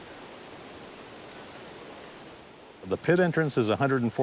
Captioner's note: water falling